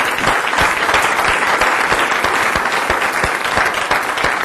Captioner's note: applause